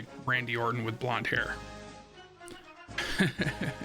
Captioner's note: laughs